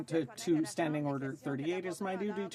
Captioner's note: speaking French